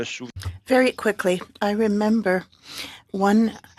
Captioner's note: speaking French